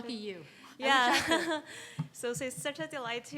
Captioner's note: laughs